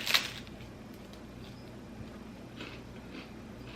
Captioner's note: chewing